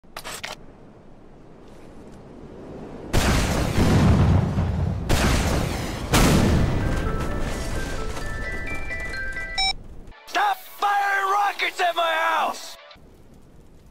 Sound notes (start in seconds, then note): 3.1 explosion; 7.0 ringtone